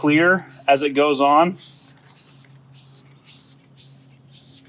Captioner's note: liquid spraying